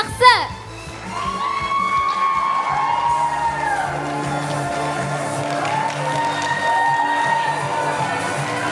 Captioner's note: applause